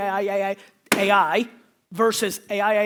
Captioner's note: slapping